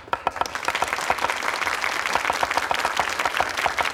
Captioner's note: clapping